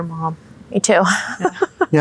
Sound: laughing

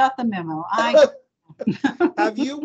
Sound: laughing

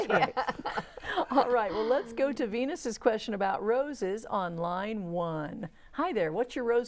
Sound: laughing

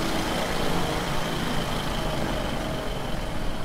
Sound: engine noise becomes quieter

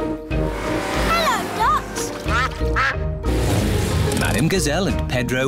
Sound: quacking

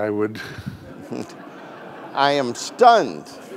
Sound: audience laughing

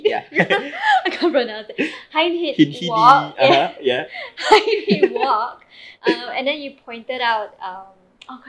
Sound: mockingly

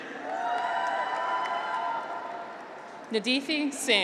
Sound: graduates cheer

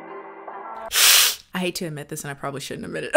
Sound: upbeat music; hisses

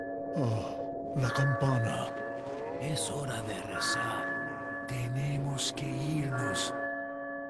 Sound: Spanish

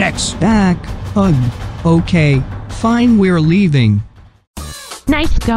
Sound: hoarsely

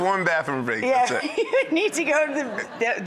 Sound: laughs

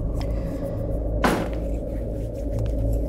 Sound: door Closes

